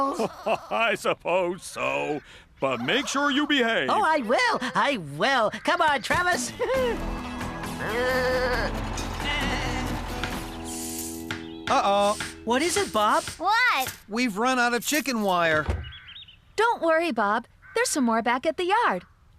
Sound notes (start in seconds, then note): 7.4 sheep Bleating